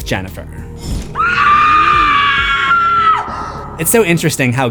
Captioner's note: screams